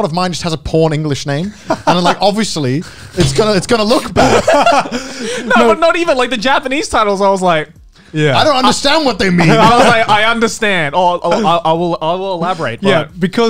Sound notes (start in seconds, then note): 1.6 laughs; 4.0 both laugh